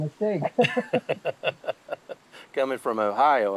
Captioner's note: both laughing